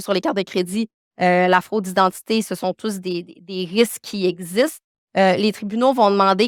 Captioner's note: continues speaking French